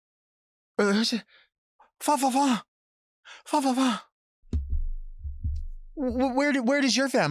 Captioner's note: imitating fancy speak in foreign language